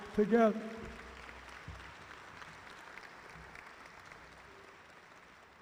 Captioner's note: audience applauding